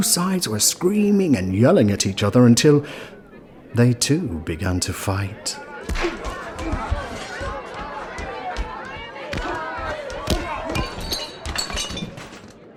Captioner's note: sounds of shouting and fighting